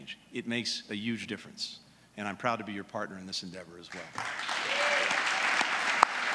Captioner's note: applause